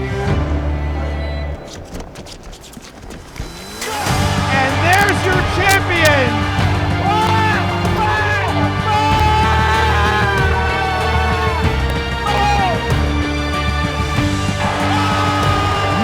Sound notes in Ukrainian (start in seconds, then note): 7.3 Крики